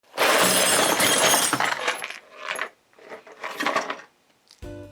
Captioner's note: clanking noise